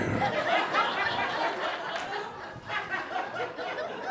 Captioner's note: audience laughs